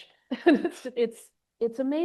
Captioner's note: laughs